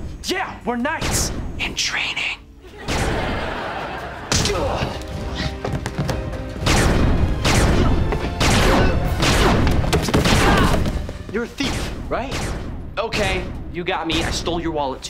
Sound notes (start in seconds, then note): 4.5 grunting